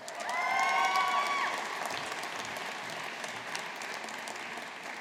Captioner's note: audience applauding